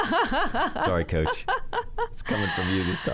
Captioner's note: laughing